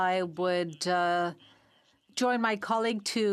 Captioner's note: speaking in French